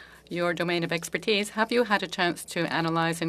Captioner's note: speaking French